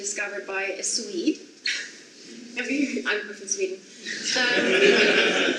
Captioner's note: audience laughs